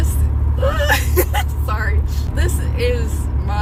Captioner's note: laugh